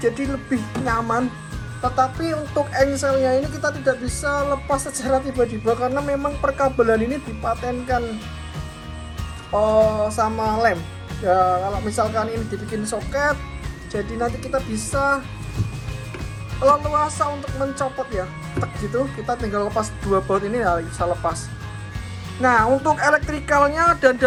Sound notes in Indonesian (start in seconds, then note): 17.7 bunyi Tek